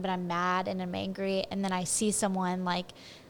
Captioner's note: none